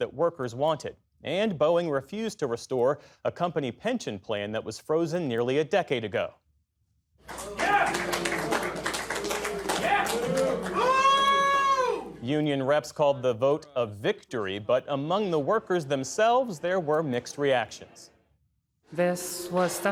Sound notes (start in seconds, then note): 12.2 cheering